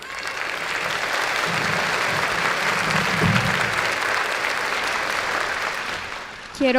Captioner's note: applause